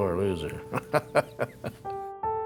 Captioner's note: laughs